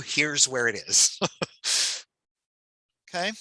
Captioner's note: chuckles